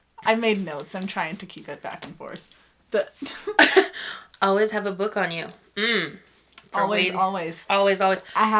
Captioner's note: laughs